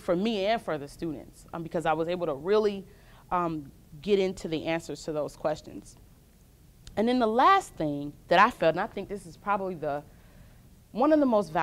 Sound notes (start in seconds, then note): none